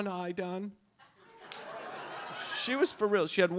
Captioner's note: audience laughs